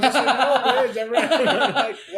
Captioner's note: laughs